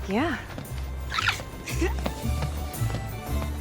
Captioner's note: peyton giggling